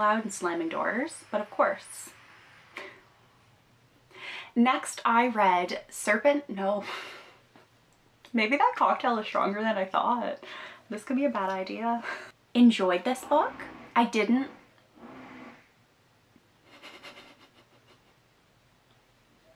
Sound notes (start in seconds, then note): 14.5 construction noise begins